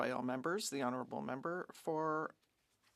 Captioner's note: speaking French